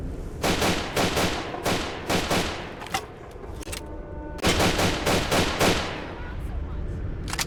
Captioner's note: spotty bursts of gunfire